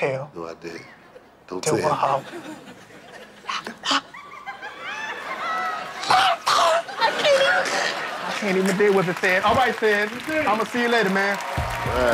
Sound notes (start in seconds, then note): 3.1 whispering